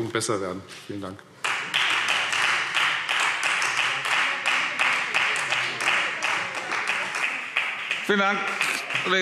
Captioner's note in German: Beifall Freie Demokraten